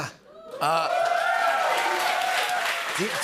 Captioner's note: cheers and applause